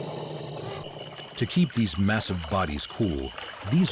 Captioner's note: water splashing